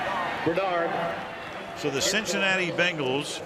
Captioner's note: pa announcement